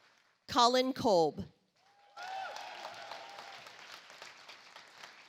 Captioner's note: audience applauds